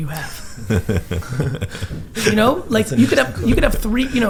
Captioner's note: laugh